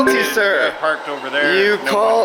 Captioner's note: ding